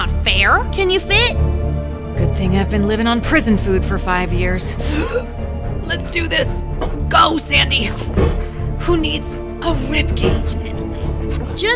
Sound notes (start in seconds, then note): 5.1 sucks breath